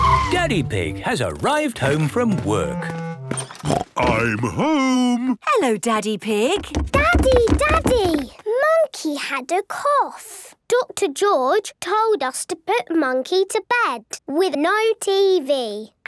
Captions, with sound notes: - Daddy Pig has arrived home from work. (snort) - I'm home! - Hello, Daddy Pig. - Daddy! Daddy! Monkey had a cough! - Doctor George told us to put Monkey to bed with no TV.